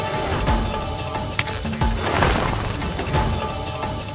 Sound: fluttering

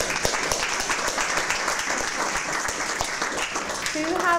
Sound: applause

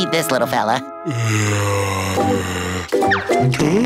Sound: groaning

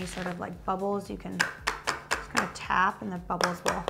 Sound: tapping mold

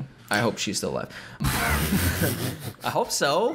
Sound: laughter

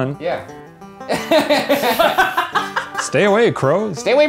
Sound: laughing

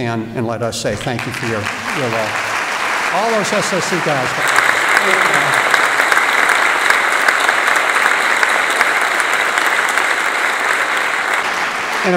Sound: applause

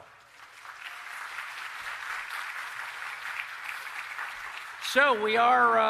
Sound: applause

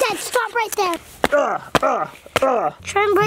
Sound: grunting

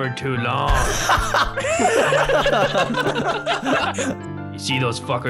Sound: laughing

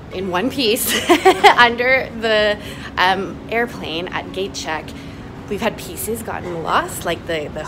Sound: haha

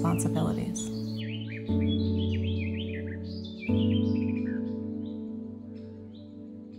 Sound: birds twitter; gentle music

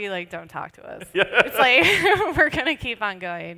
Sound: laughter

